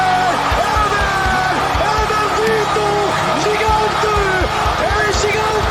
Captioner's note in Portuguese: Gritos de emoção